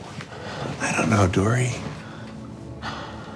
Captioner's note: sighing